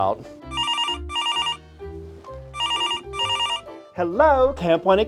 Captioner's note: phone ringing